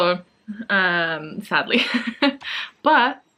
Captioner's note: laughs